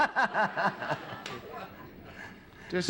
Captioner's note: laughter